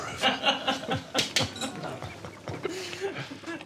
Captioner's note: laughter